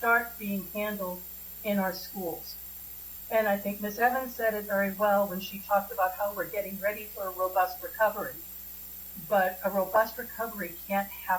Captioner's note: spanish